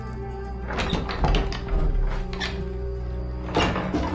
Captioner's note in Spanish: Chirrido